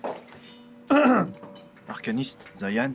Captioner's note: Zayan coughs